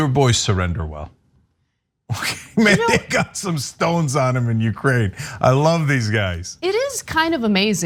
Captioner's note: laugh